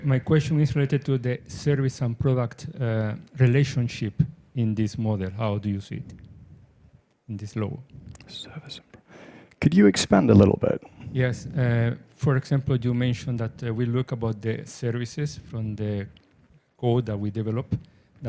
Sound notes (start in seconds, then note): 8.4 whispers